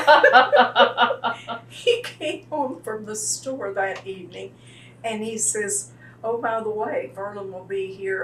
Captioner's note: laughter